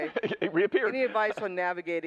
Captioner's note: laughs